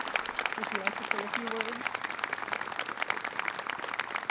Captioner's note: applause